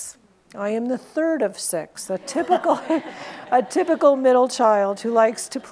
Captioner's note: laughs